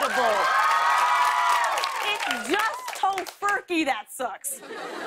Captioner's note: cheers and applause